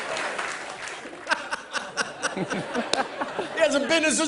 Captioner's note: laughs